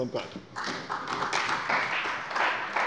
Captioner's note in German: Beifall bei der CDU und dem BÜNDNIS 90/DIE GRÜNEN